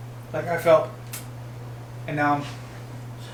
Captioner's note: kiss sound